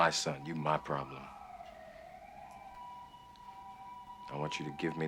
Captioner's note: sirens ululate